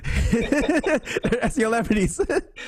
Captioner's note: laughs